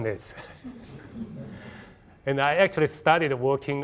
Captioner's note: audience laughing